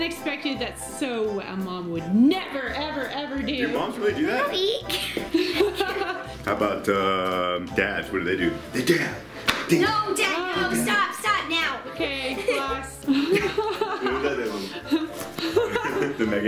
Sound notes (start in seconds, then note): 5.0 laughs; 15.2 laughs